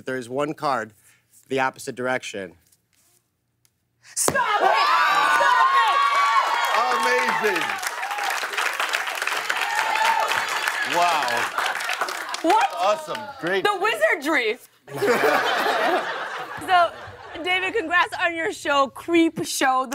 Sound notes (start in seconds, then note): 7.6 cheers and applause